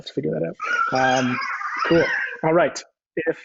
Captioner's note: baby coos